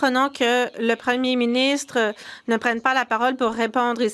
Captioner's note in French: voix de l'interprète